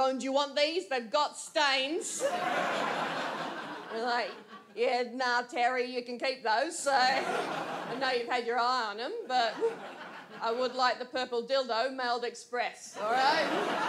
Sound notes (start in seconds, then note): 2.2 audience laughs; 13.0 audience laughs